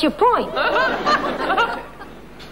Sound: audience laughing

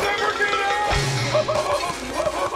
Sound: screaming

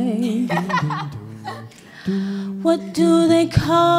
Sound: laughs

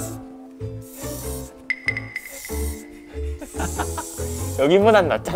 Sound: the sound of a spray is intense

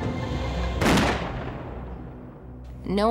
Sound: gunshot

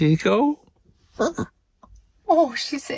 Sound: grumble

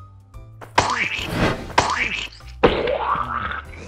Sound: splat noises

